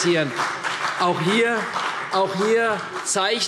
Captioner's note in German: Beifall CDU und BÜNDNIS 90/DIE GRÜNEN